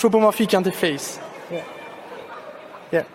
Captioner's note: audience laughing